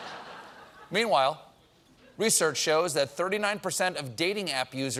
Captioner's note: laughter